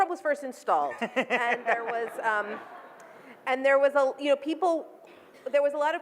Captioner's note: audience laughs